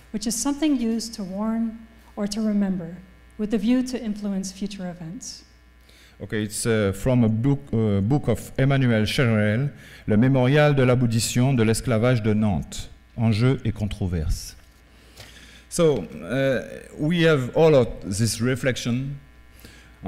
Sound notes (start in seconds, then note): 9.7 speaking french